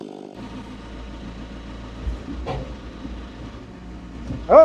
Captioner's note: engine rumbling